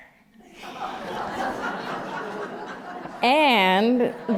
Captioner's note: laughter